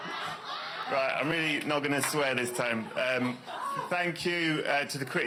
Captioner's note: cheers and applause